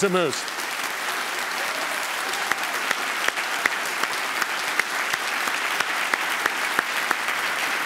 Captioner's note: applause